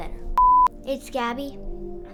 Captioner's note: abrupt beeping sound